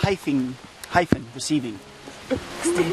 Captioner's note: chuckles